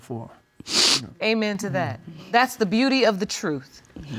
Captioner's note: sniffles